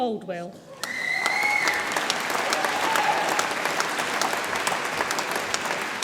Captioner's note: audience applauds and cheers